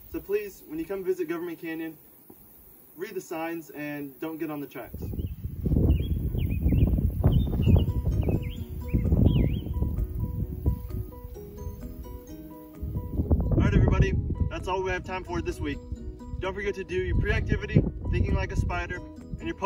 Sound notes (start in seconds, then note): 5.9 happy music plays; 5.9 wind blows, birds chirp